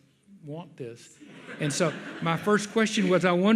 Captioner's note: audience laughs